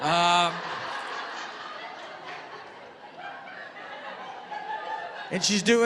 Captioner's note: laughter